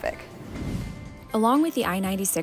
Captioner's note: swoosh sound effect